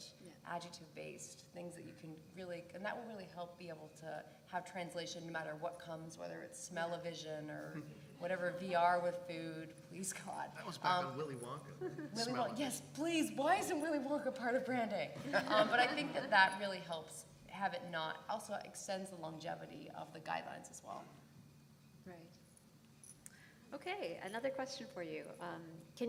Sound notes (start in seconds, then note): 15.2 laugh